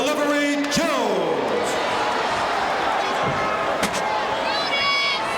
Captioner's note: audience cheering